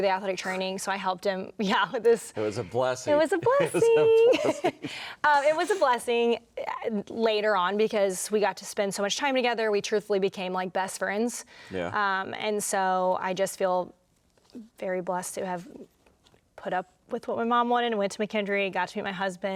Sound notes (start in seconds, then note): 5.3 laughing